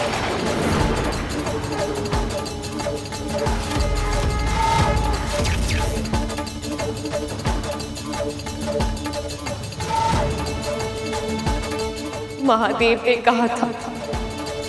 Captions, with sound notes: [conch blows] Lord Shiva warned me